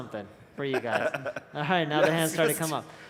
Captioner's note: laughs